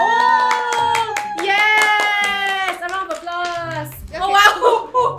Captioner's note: applause